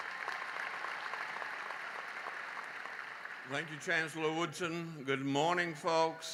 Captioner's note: applause